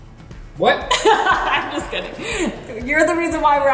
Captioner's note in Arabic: أمي تضحك